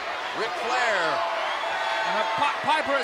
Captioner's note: crowd cheering